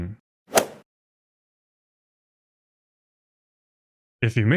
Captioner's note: golf ball hit sound effect